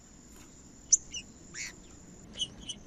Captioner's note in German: trinca ferro cantando